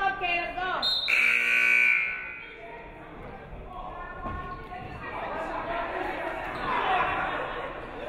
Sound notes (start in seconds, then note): 0.8 referee whistles; 1.0 buzzer buzzes